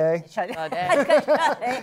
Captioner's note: laughter